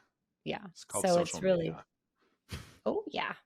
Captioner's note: laughs